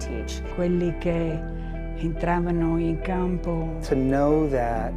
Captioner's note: speaking in foreign language